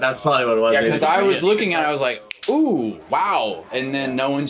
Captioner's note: snaps fingers